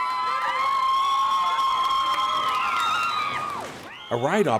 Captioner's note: screaming; cheers and applause